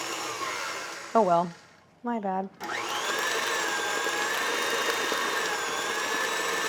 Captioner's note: machine whirring continues